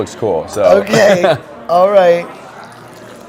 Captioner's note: laughs